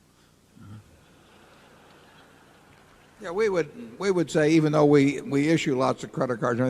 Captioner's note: laughter